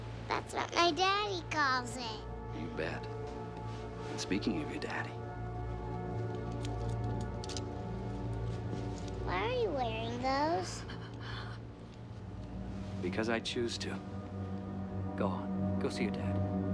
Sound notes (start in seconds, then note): 10.9 gasps